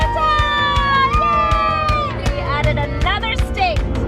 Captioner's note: family cheers